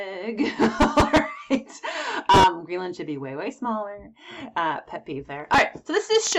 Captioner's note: laughs